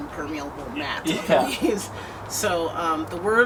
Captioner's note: laughter